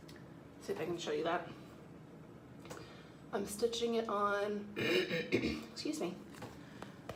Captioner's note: clears throat